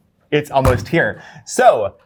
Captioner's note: table thuds